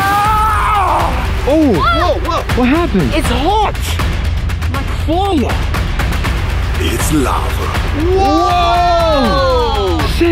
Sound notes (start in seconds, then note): 0.1 hacker yelling; 1.4 yells; 8.0 yelling